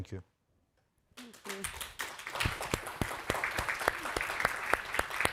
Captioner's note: all applauding